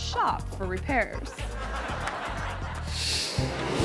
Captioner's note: audience laughing; inquisitive music; screen whooshes